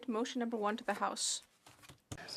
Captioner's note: speaking French